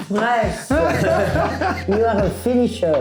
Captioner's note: laughing